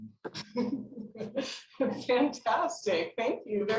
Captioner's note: laughing